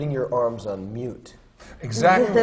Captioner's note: laughs